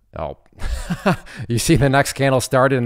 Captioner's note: laughs